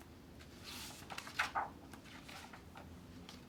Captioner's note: pages flip